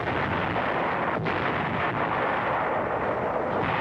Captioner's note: guns blasting